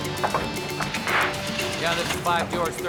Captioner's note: speedboat engine sputtering